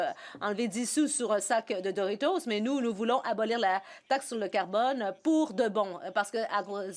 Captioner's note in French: voix de l'interprète